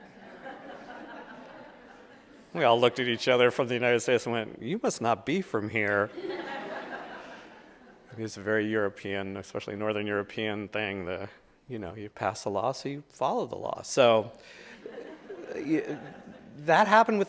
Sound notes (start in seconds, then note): 0.0 audience laughing; 5.9 audience laughing